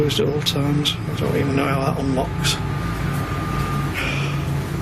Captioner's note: sighing